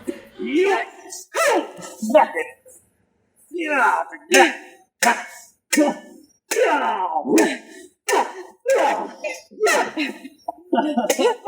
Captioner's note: fighting noises